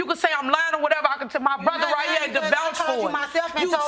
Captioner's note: arguing